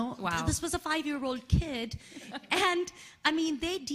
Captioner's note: laughing